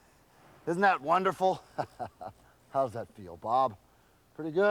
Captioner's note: laugh